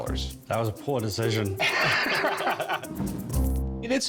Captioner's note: both laugh